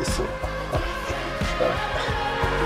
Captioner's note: sobbing